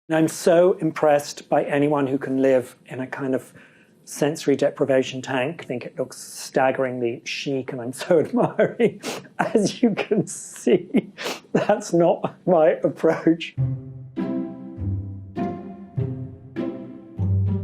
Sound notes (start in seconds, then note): 11.5 chuckling; 13.5 playful music